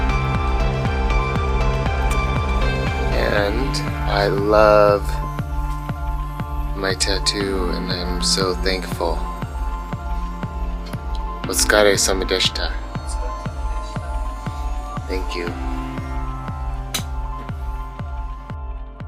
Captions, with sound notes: And I love my tattoo, and I'm so thankful. (speaks in foreign language) Thank you.